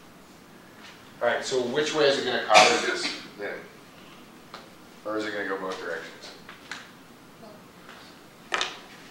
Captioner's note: cough